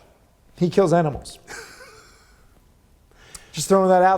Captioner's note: laughs